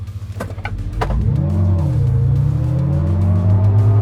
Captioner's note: motor revving